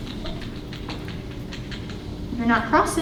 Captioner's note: keyboard clicking